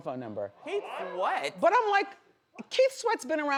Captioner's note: audience gasps